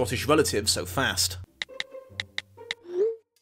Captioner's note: keyboard typing